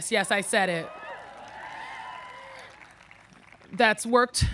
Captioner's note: audience cheering